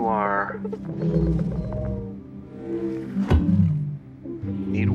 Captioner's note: soft melodic humming